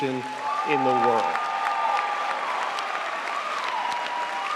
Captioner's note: crowd applauds